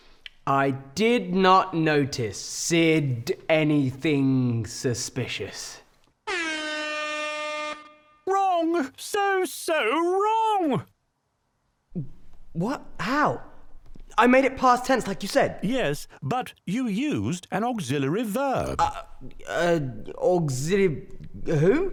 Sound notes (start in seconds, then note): 6.2 alarm blaring; 8.0 voiceover; 15.4 voiceover